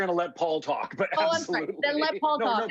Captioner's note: laughs